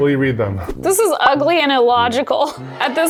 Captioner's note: crowd wailing